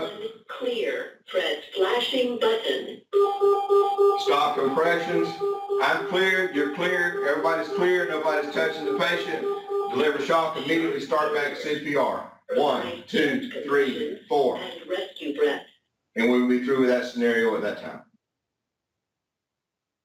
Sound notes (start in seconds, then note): 3.0 AED Beeping; 3.1 beeping; 4.2 AED Beeping